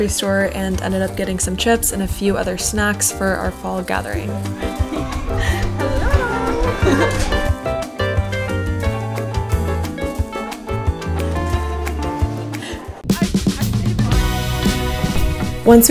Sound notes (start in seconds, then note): 7.5 giggling; 9.1 upbeat music